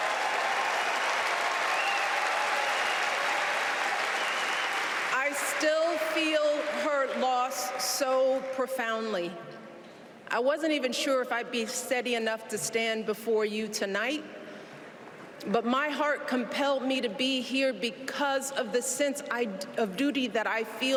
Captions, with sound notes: compass high and showed me the power of my own voice. >> [ Cheers and applause ] >> I still feel her loss so profoundly. I wasn't sure if I would be